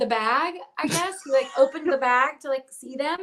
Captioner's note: laughs